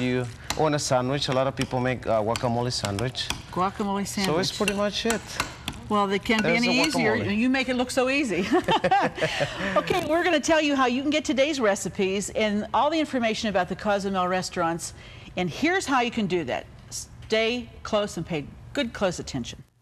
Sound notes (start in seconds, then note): 8.4 laughing